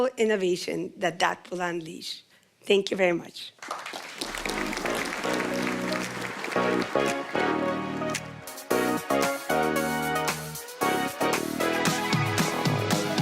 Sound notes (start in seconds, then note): 7.9 applause